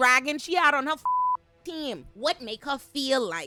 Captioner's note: beep